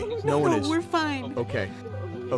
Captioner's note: crying